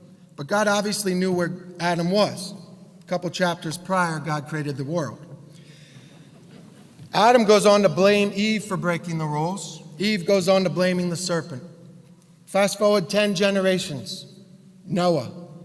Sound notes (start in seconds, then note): 6.2 laugh